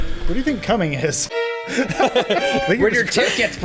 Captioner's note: laughter